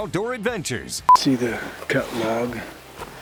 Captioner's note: beep